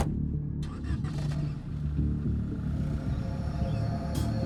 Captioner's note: car engine revving